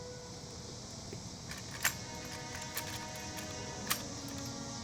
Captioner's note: metallic clinking